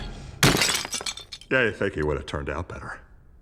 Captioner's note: smashes